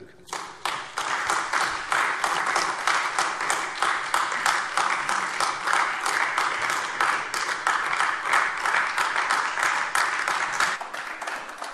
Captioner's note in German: Beifall AfD